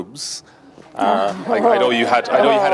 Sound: group laughs

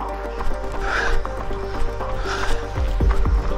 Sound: panting

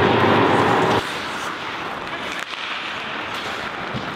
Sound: sound of hockey sticks slapping ice

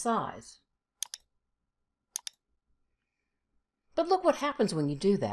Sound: mouse clicking

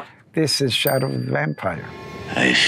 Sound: bell dinging

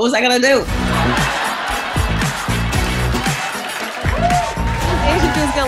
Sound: upbeat music; audience cheering

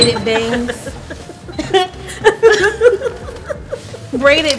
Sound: laughing

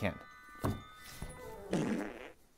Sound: fart

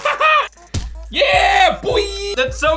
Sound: pounding; thump

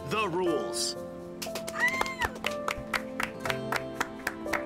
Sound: cheering, applause

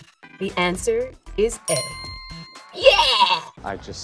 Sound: bell dinging

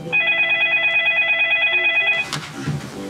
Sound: phone ringing

